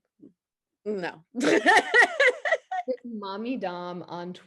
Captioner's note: laughs